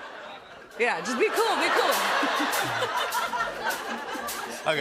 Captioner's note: laughter